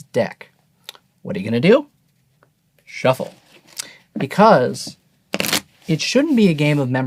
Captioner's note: cards shuffling